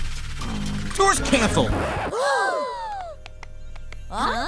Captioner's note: all gasp